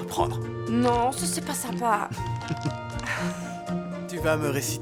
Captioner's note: chuckling